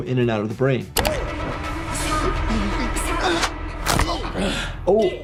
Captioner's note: announcer speaking in Korean; bone cracks; announcer speaks in Korean